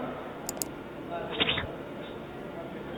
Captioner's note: Squelch